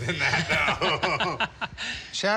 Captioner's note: laughs